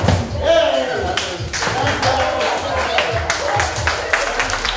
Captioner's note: applause